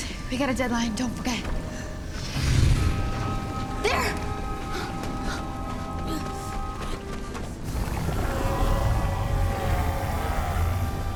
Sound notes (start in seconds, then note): 5.0 panting; 8.1 screams